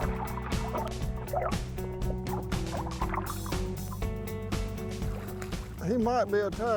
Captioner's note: soft music; water splashes